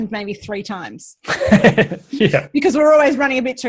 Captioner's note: laughs